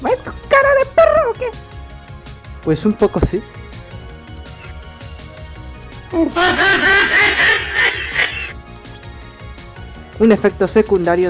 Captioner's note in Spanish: mujajajajajaja